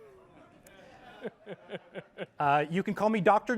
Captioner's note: laughter